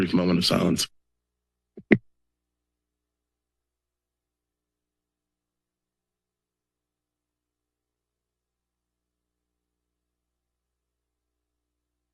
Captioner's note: silence